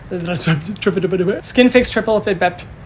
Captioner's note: Hyram stumbles over words; Hyram stumbles over words again